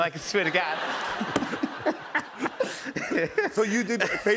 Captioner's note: laughter